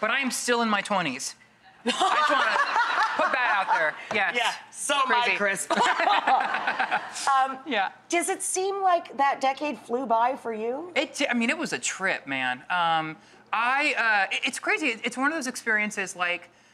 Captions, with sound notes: But I am still in my twenties. (audience laughs) I just wanna put that out there, yes. So am I, Chris. (laughs) Does it seem like that decade flew by for you? It did, I mean it was a trip, man. It's crazy, it's one of those experiences like,